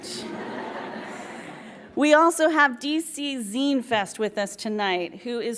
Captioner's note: laughs